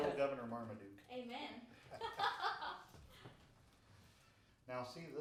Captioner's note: laughing